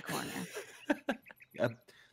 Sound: chuckling

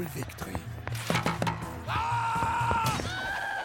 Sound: screaming

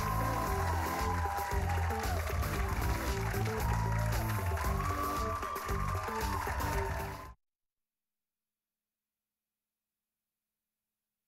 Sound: cheers and applause

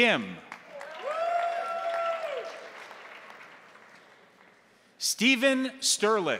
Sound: crowd applauding; crowd cheering

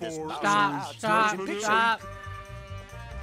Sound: over Cacaphony Of Cartoon Voices

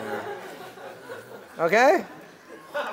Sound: laugh

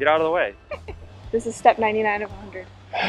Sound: laughing

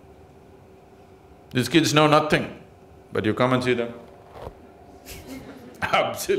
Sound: laughs

